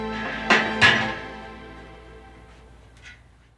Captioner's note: metal clanging